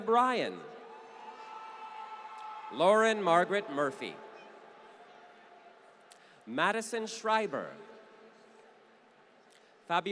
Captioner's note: applause